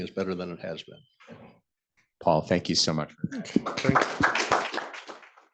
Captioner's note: applause